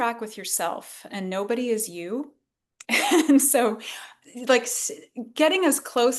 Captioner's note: laughs